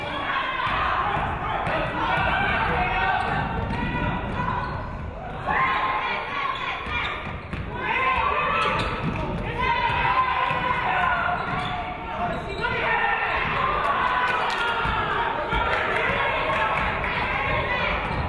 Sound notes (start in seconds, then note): 5.7 audience cheering; 13.3 audience cheering